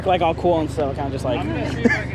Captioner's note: laughs